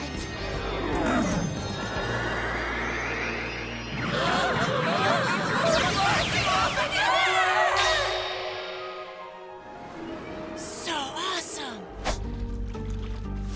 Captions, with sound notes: [Team Rocket groaning] We're blasting off again! So awesome!